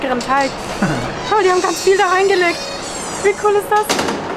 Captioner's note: laughs